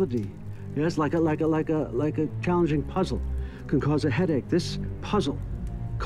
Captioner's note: stutters